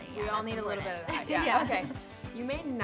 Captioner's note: laughs